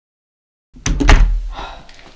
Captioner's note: door closes